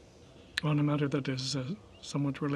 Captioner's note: speaking French